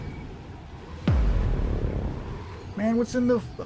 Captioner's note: dramatic Boom